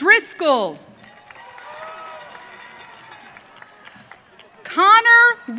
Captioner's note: audience cheering